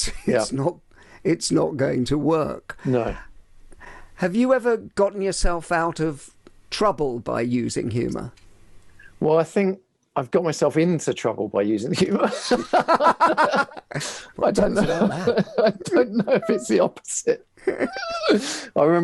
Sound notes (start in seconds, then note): 12.0 laughing